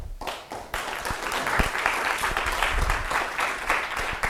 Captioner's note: applause